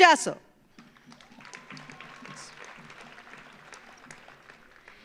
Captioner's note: audience applauds